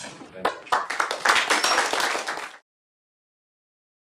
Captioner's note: applause